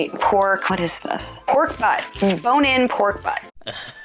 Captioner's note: Beavis and Butthead laughing